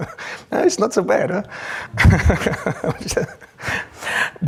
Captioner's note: laughs